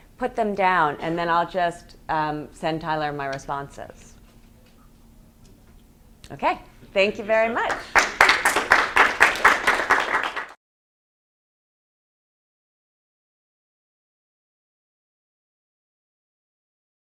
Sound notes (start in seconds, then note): 7.7 students applauding